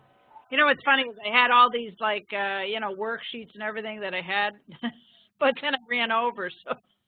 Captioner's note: laughing